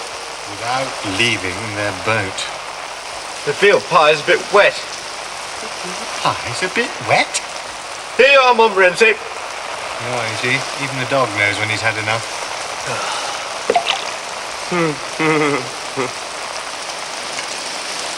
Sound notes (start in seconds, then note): 14.6 chuckling